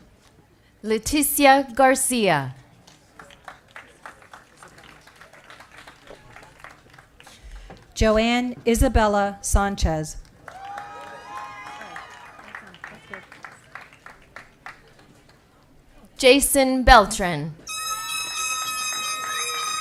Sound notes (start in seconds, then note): 15.1 applause & Cheering